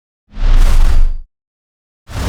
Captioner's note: whooshing